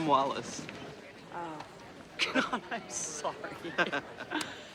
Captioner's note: chuckles